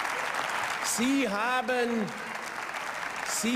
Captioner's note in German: Beifall